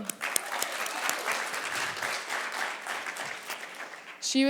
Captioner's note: audience applause